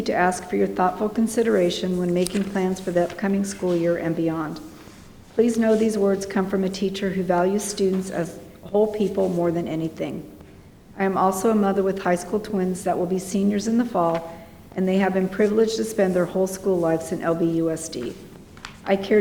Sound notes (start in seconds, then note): none